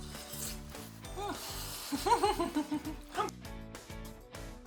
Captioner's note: laughing